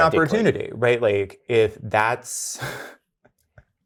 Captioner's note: laughs